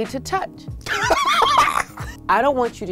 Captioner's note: laughs